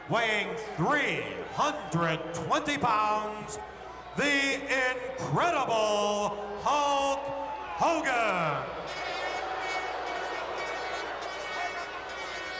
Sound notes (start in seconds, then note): 8.4 crowd boos; 9.5 air horn blows